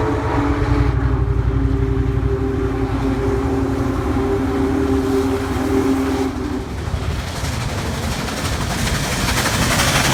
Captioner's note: noise of steam engine & clatter of railroad tracks